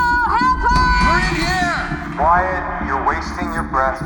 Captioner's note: man, over loudspeaker